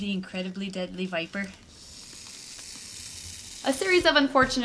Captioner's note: snake noises